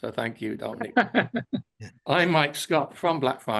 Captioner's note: laughing